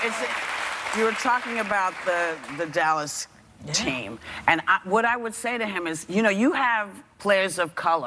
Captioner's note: applause